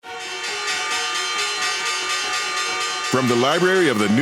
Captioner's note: bell clanging